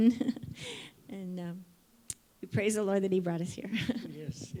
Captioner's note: laughs